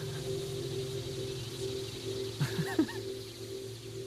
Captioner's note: laughs